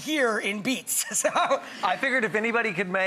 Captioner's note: laughs